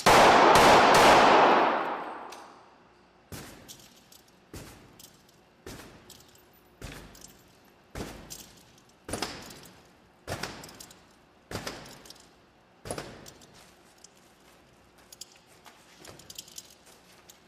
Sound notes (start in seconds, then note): 0.0 guns firing; 5.8 kicks thudding